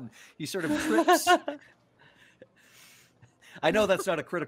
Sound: laughs

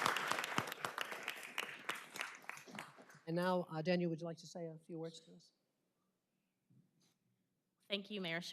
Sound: applause

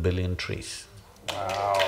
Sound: cheers/Applause

